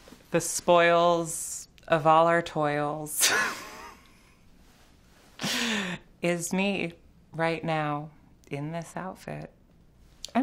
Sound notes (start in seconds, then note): 3.3 laughs